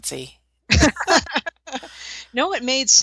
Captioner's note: laughter